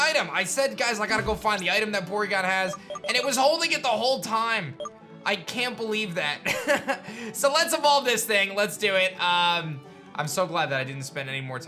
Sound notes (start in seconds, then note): 6.2 laughs